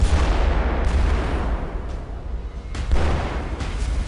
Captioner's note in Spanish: Explosión